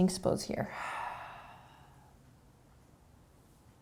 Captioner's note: exhaling